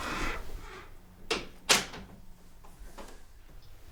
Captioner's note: shutting door, lock